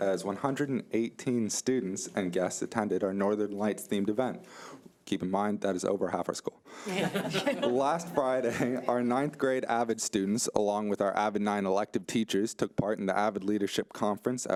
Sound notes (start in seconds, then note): 6.8 group laughs; 7.0 overlapping chattering